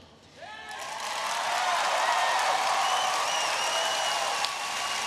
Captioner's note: audience cheering